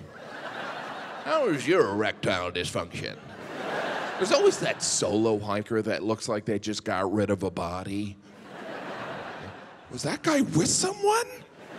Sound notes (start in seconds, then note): 0.0 audience laughing; 8.3 audience laughing